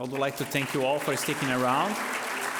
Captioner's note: applause